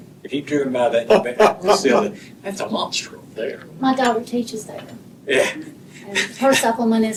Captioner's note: laughter